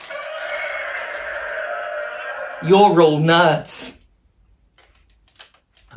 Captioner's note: roar